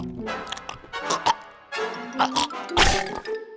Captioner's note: gags